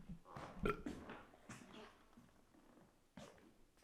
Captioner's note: Jacob burps